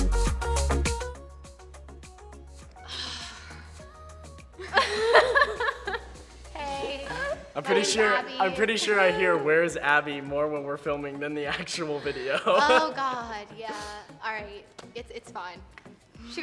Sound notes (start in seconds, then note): 2.8 sighing; 4.6 all laughing; 12.0 laughs